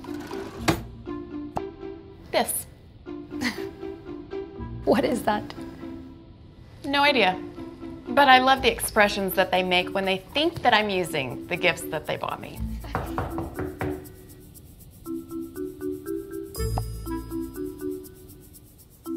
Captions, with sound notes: this. - (laughs) What is that? - No idea. But I love the expressions that they make when they think that I'm using the gifts that they bought me. (door knocking)